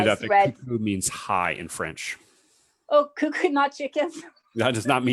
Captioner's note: laughs